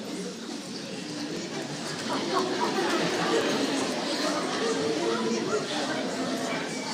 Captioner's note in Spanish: La gente se ríe